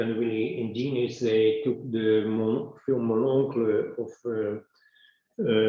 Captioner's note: speaks in foreign language